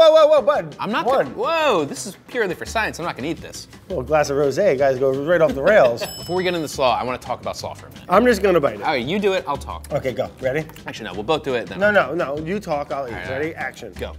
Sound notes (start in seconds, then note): 5.3 laughs; 5.8 bell dings